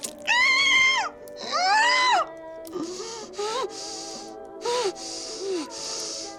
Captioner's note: flesh tearing; muffled screaming